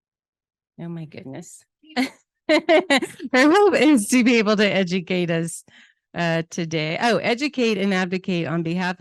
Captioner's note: laughs